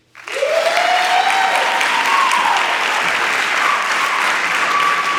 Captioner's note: attendees applauding and cheering